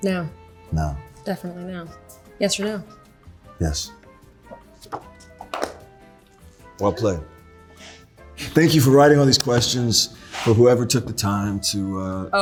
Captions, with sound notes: - Now. - Now. - Definitely now. Yes or no? - Yes. [paper flipping] [light music] - Well played. Thank you for writing all these questions for whoever took the time.